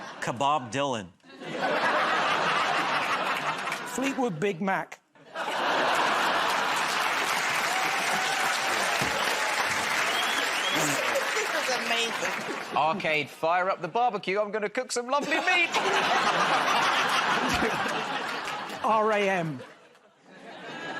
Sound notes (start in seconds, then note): 1.2 laughter; 7.6 cheers and applause; 15.2 laughter